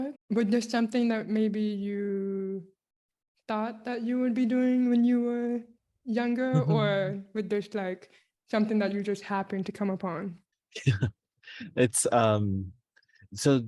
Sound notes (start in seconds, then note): 10.8 chuckles